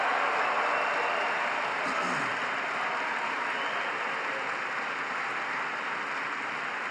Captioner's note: applause